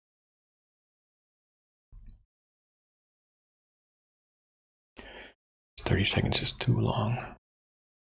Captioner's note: blank Audio